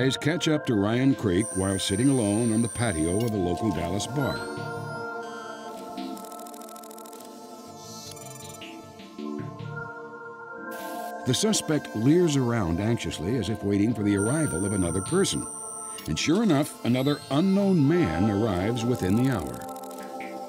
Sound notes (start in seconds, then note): 5.7 camera zoom sounds; 7.8 beeps